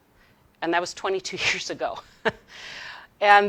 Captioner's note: chuckles